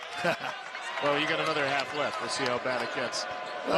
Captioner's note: laughter